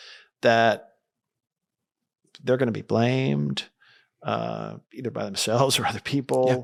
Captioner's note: laughs